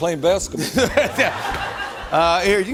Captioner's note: laughter